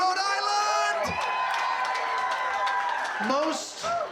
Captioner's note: crowd cheering, clapping